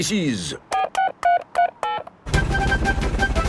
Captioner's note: dialing